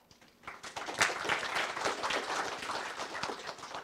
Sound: audience clapping

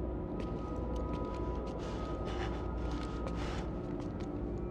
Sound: shaky breaths; footsteps approaching

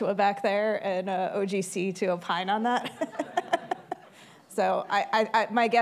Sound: laughs

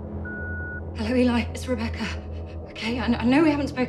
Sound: voicemail beeps

